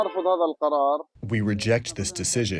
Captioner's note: through translator